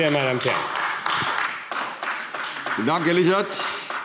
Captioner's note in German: Beifall AfD